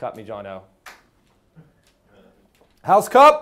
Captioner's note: loud clap